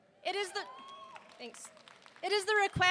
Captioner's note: audience cheering and applauding